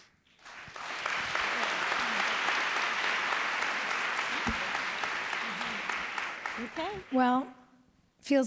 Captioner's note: applause